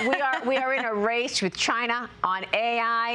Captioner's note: laughter